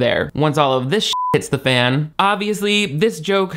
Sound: beep

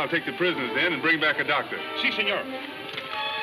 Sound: speaking foreign language; ominous music playing

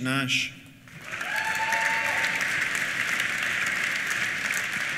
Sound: applause; cheers

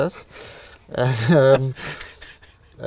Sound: chuckles

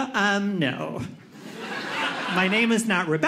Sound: audience laughing

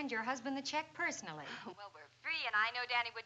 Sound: on phone

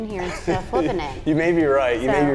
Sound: laughs

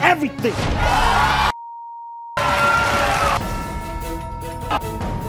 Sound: audience screaming

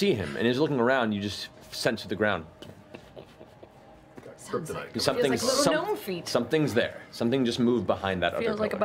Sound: footsteps

